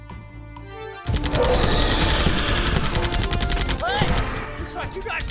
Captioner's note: screeches and roars; gunfire